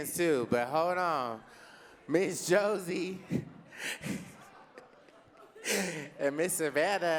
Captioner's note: laughs